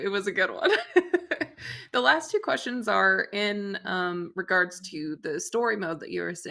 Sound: laughs

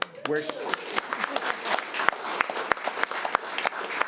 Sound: crowd clapping

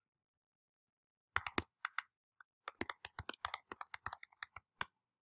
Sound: keyboard clacking

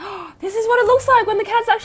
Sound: gasps

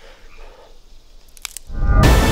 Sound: twig snaps

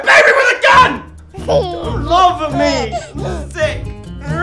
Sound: baby laughs

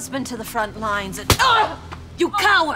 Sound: slap

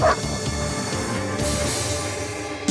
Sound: barks

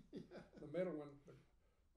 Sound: laughing

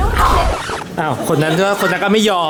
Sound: wooof

